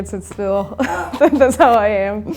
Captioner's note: laughing